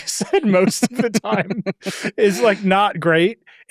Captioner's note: chuckles